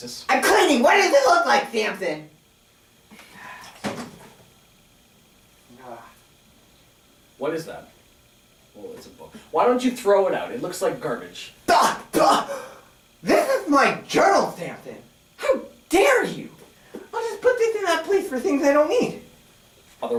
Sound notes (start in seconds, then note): 3.1 sighs again; 12.4 makes offended gasping noises